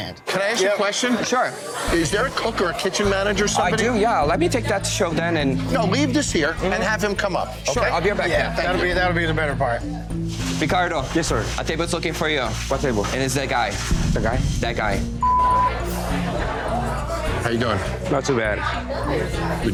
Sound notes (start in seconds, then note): 15.0 customers chattering; 15.2 beep